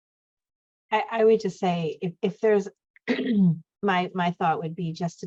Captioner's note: clears throat